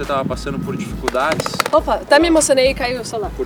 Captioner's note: cell phone falling